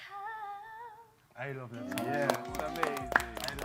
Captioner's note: claps